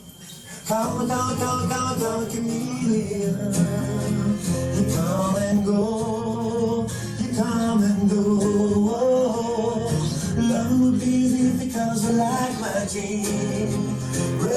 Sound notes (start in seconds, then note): none